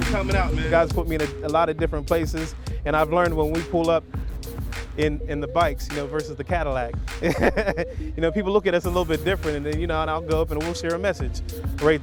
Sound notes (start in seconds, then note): 7.2 laughs